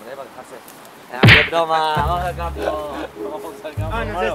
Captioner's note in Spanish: golpe